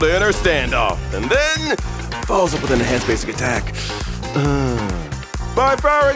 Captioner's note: sigh